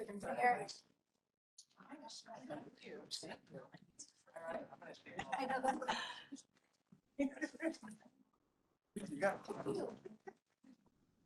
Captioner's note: chatter